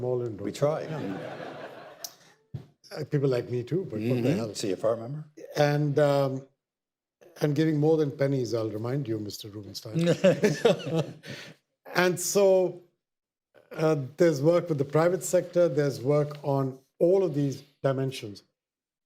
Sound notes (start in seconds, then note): 0.8 audience laughter; 11.7 audience laughter